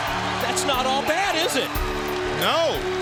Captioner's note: crowd cheering